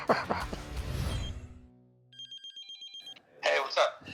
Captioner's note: chuckles; phone beeping